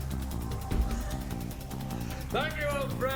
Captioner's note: Ragtooth laughs